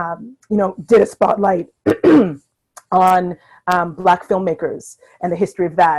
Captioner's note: coughs